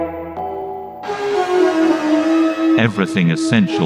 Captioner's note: chanting music; gong sound; exuberant music